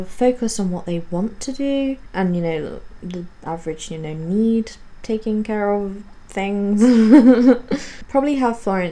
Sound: laughs

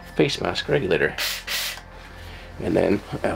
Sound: air twice whooshes

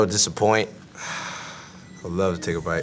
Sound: sighing

